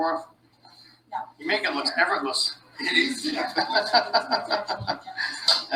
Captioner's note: laughing